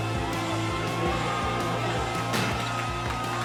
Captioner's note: cheering, applause